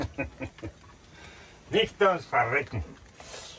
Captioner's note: laughing